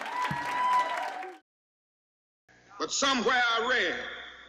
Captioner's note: audience applauds